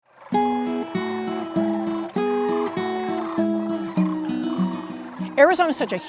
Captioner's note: cranes calling